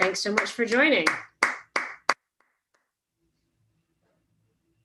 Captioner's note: applauds